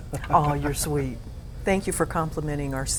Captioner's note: ^laughter^